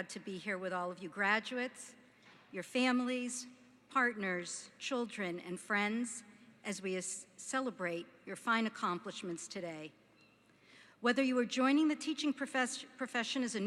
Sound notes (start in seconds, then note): none